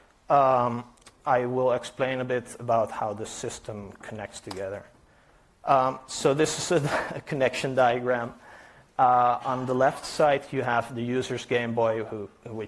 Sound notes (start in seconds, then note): 6.8 chuckles